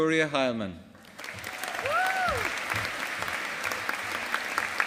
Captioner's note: audience applauding